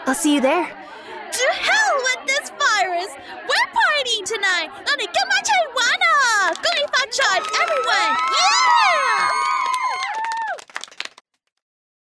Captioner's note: repeats in Cantonese